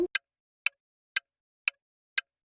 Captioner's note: clock ticking